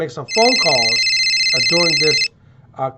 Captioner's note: phone ringing